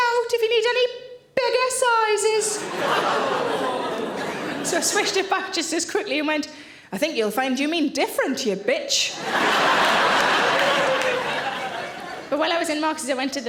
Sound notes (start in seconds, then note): 2.5 audience groans; 9.1 audience laughs